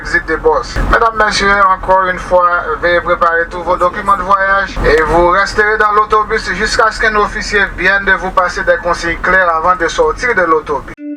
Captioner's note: repeating the same, in French